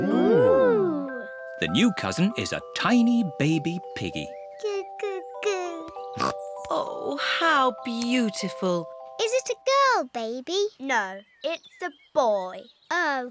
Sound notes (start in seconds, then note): 6.1 snorts